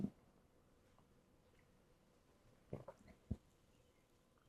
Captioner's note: drinking